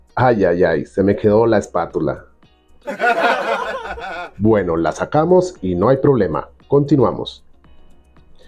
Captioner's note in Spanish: risas